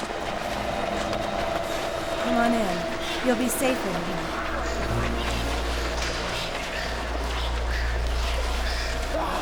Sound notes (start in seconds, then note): 4.2 growls